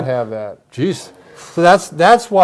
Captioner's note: sharp exhale